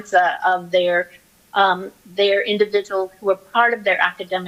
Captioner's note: foreign language